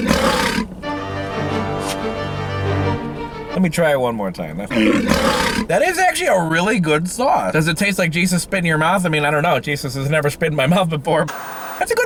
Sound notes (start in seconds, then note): 0.0 tiger growling; 0.8 dramatic music; 4.5 tiger growling